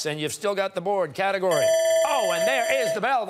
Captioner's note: timer sounding